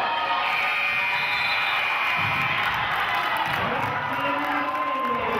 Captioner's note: cheering and clapping; buzzer honks